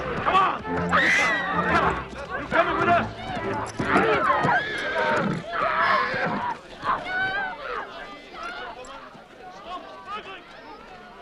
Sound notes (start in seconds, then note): 0.9 villager screams; 3.8 horse neighs; 7.5 townsfolk shouting